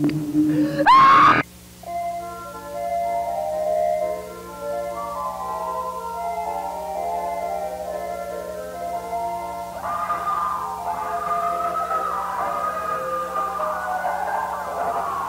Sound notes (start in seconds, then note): 0.7 Ashley screams; 9.4 distant screaming